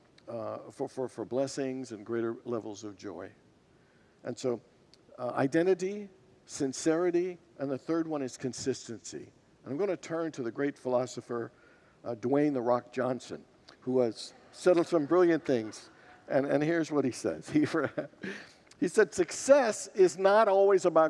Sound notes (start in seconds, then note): 14.2 congregants laugh